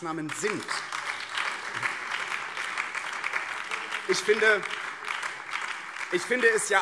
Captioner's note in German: Beifall BÜNDNIS 90/DIE GRÜNEN